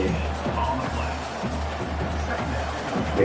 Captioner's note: crowd Noises